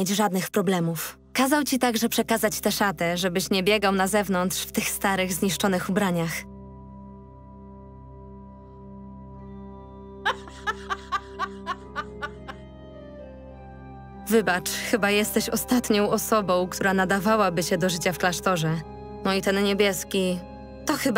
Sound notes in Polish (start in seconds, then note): 10.2 śmiech